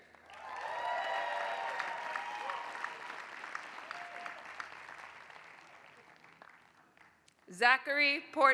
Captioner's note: applause